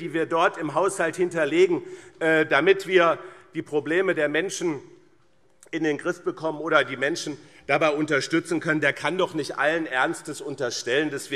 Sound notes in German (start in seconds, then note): none